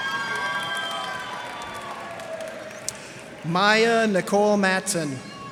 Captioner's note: cheers and applause